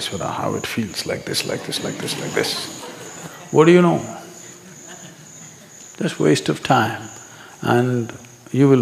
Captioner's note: laughter; 笑聲